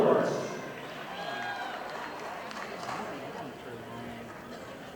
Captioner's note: audience applauding